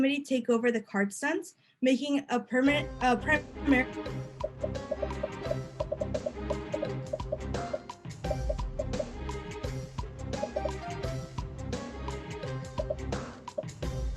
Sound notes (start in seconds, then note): 4.2 upbeat music; 4.4 popping